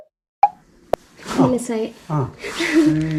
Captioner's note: laugh shyly